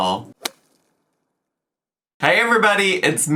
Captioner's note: logo thuds